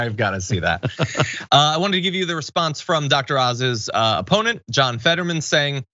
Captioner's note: laugh